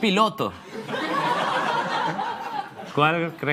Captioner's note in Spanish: Risas